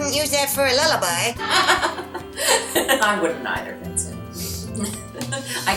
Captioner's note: laughing